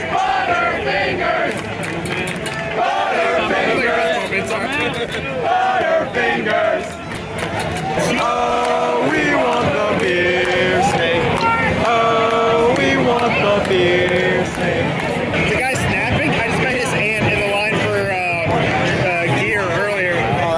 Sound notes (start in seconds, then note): 7.9 ”Oh we want the Beer Snake” chant